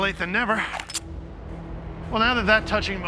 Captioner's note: gun cocking